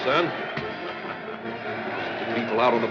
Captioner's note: chuckles